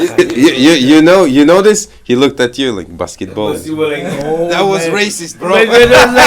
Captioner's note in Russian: Смеются